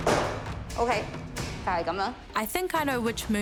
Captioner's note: speaks chinese language